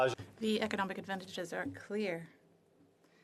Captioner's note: speaking French